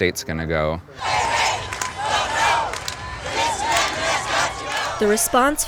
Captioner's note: chanting